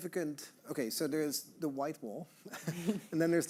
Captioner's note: all chuckling